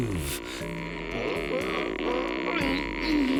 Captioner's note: groaning